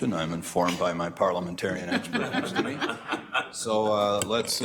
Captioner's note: staff laughing